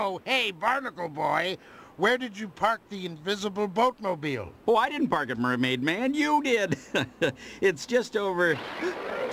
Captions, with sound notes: Hey, Barnacle Boy, where did you park the invisible boatmobile? Oh, I didn't park it, Mermaid Man. You did. [chuckles] It's just over...